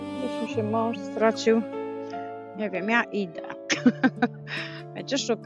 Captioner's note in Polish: śmiech